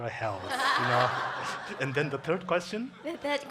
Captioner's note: congregation laughing